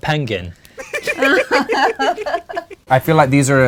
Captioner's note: laughter